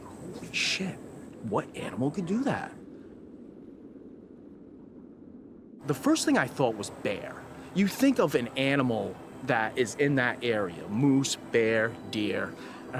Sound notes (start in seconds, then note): 2.8 wind gusting